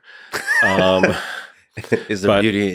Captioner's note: Lex laughing